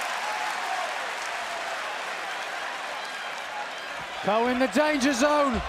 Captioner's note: cheers and applause